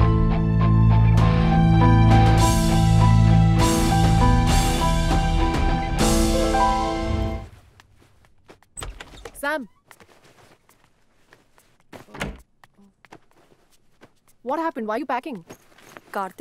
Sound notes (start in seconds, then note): 8.7 door opens; 12.0 door closes